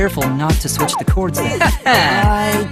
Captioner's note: chuckling